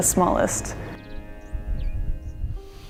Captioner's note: birds chirping